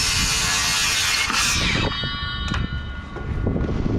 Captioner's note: saw go buzz